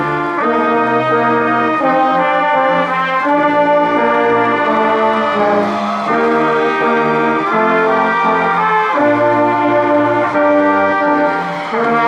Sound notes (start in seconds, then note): 6.2 crowd cheering and applauding